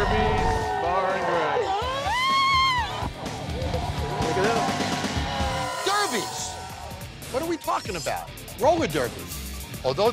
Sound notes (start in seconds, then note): 1.8 screams